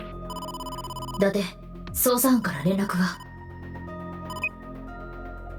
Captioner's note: none